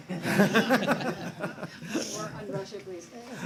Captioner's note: laughter